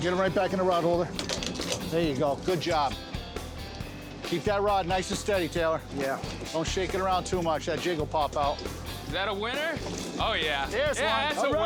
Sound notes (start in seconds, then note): 1.5 clicking into place